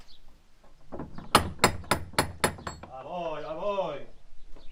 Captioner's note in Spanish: door knocker